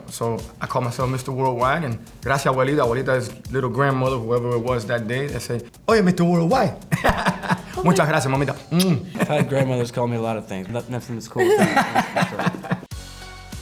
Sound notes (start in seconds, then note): 8.3 foreign language; 9.1 laughter; 11.4 laughter; 13.3 lively music